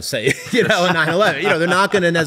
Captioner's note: laughter